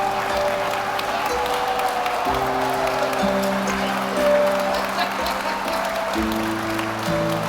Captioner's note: audience applauding; audience cheering